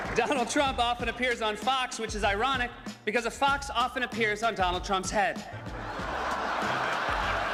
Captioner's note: cheers and applause